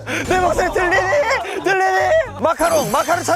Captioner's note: shouting earnestly